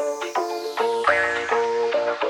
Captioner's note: boing